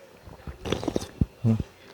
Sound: sip

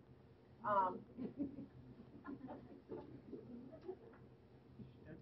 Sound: laughing

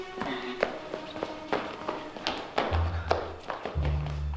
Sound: suspenseful music; running footsteps

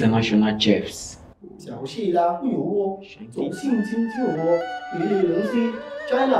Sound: speaks in Mandarin

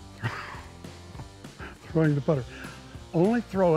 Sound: laughs

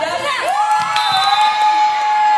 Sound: cheers

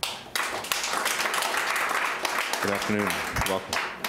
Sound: applauding

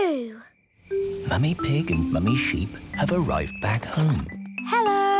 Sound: whispering

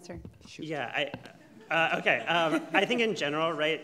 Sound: audience laughing

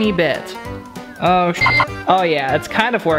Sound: beep

